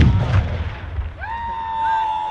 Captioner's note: artillery explodes; person screams